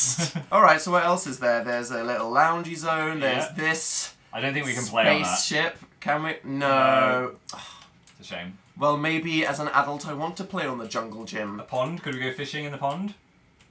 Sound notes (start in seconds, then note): 7.4 sighs disappointingly